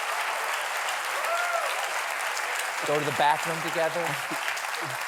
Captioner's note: applause